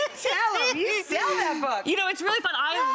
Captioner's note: Ross laughing